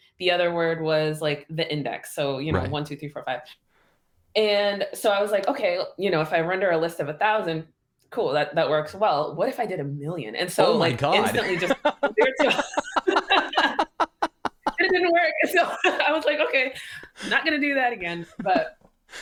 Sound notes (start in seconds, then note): 10.7 laughter